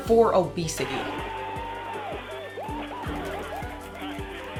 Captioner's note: cheering